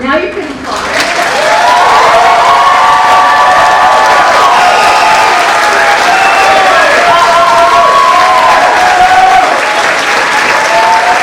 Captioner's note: applause and cheering